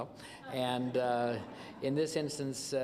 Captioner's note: laughter